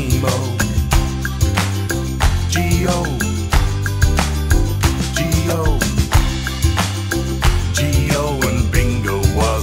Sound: clap

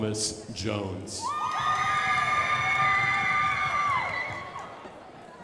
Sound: crowd applauding

